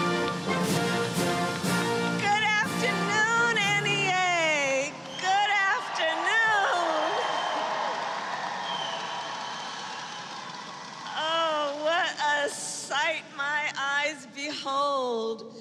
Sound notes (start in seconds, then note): 6.7 applause